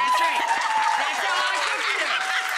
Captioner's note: audience applause